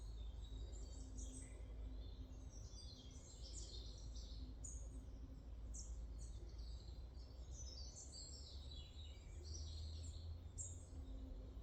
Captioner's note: sounds of the forest